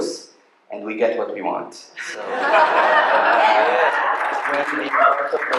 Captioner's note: laughter